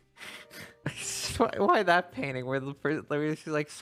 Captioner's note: chuckling